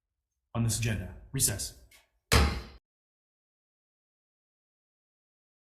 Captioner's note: gavel thudding